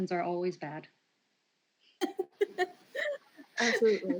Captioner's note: laughter